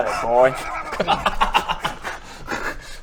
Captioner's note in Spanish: risas